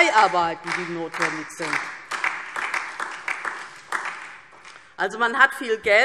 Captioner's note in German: Beifall DIE LINKE und vereinzelt SPD